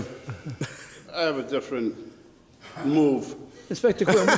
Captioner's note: all laugh